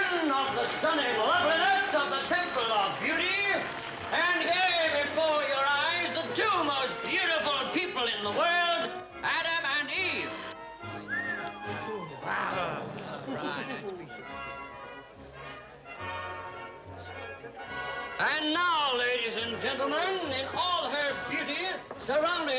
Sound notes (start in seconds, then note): 10.9 onlooker whistles; 11.0 crowd murmurs